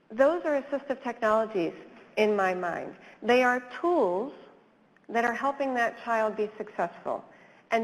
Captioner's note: none